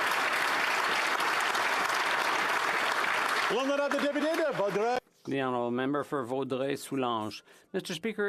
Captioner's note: applause